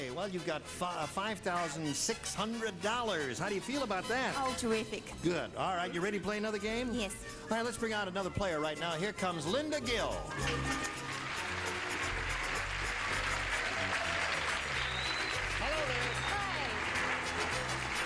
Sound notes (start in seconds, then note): 14.7 applauding